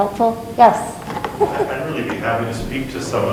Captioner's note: chuckles